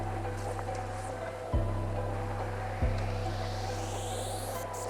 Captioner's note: intense music; water swishing